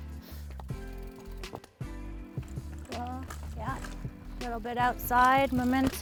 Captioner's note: bike zooming